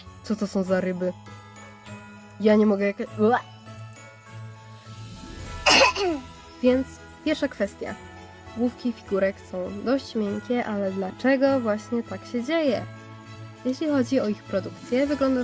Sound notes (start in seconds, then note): 5.6 kaszelek